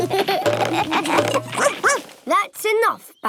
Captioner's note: all laugh; barks